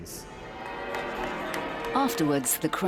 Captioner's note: crowd cheering; bells ringing